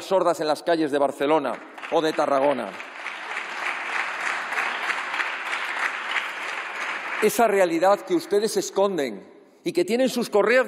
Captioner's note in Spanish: aplausos